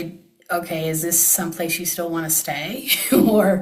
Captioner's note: laughs